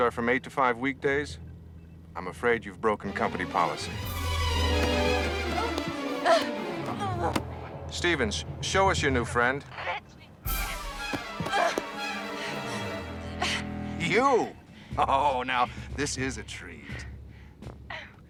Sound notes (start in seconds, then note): 3.0 dramatic music; 4.5 grunting; 10.4 dramatic music